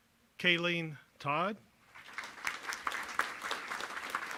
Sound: applause

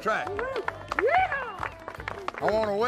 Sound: crowd cheering

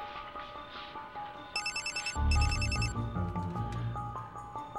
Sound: ringtone

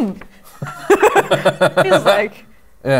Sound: laughter

